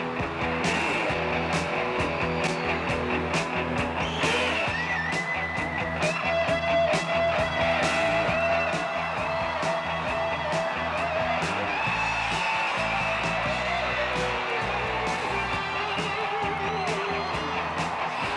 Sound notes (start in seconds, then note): 10.0 upbeat rock music continues; 11.7 crowd cheering